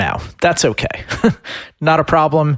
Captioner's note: laughs